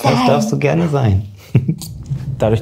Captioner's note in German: Kichern